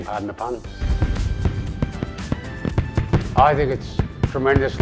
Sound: fireworks

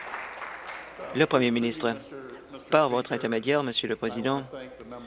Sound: applause

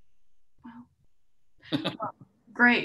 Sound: laughing

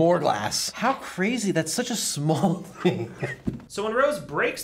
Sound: laughs

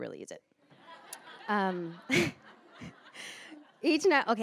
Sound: laughter

